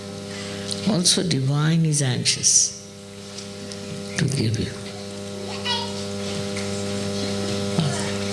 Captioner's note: applause